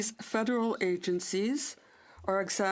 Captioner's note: speaking French